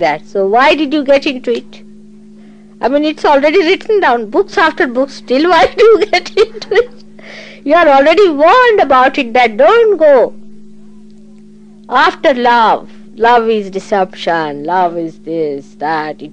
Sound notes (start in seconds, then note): 5.5 laughing